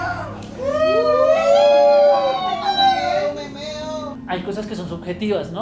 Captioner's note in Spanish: gritos de emocion